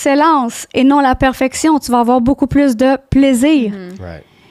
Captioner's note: in french